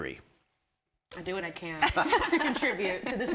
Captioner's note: everyone laughing